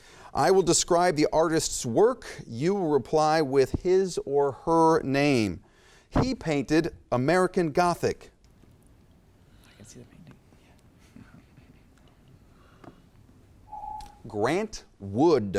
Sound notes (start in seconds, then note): 13.7 timer beeps